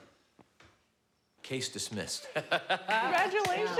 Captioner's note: laughs